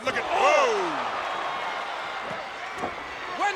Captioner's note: audience cheers